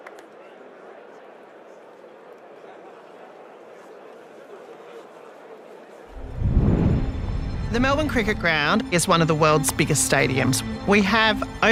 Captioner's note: applause